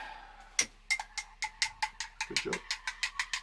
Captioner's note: clicks